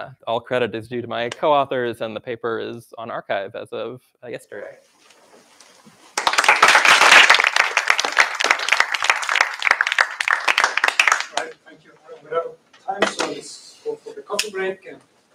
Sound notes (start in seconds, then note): 6.1 applause